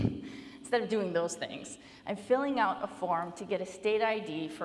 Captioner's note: laughs